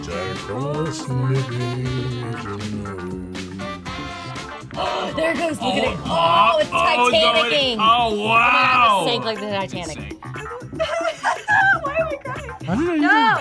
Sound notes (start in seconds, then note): 4.6 gasps; 10.2 laughs